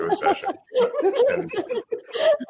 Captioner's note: laughing